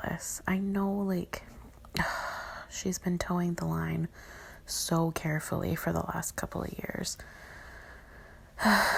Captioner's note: sigh